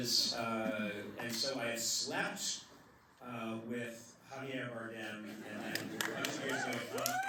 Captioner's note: laughter